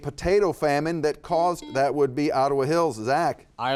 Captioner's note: buzzer beeping